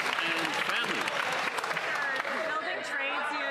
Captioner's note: some Applause